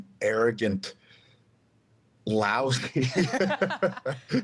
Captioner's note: both laughing